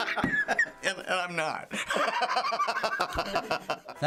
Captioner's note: laughs; laughs harder